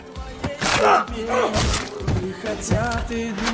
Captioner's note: grunting